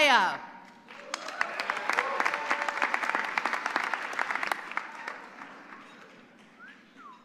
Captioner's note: applause